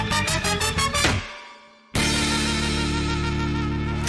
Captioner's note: exhales; clunk!